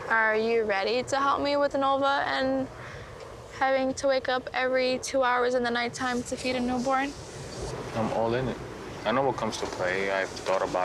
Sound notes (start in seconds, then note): none